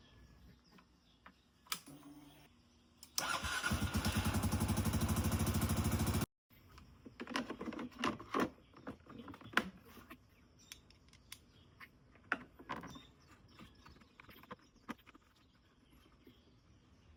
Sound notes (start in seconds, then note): 3.2 engine running